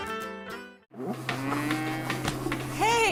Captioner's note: cows mooing